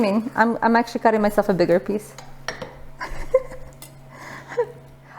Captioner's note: giggles